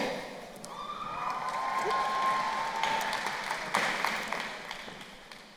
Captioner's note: crowd cheering and applauding